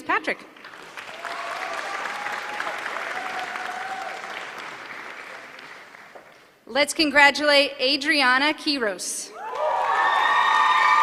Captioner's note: applause